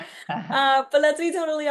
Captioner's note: laughs